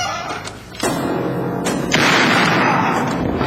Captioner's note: gunshot